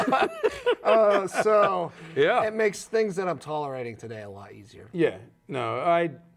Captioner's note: laughing